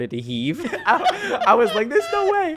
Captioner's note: laughing